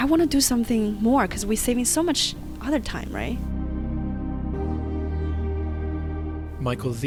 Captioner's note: voiceover